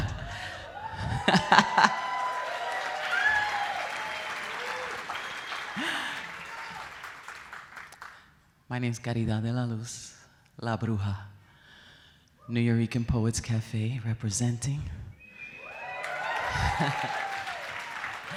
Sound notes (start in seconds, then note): 0.0 audience cheering; 0.0 audience applauding; 0.2 laughs; 15.2 audience cheering; 15.3 audience applauding